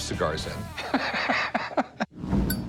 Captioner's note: laughs